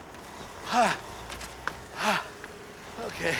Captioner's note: panting